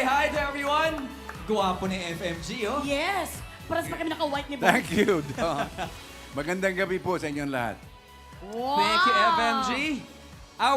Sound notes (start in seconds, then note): 4.7 chuckles